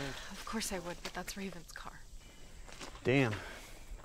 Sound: sigh

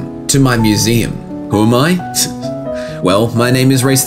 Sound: chuckle

